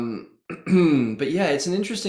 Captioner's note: clears throat